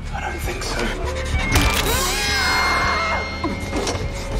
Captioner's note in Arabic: صراخ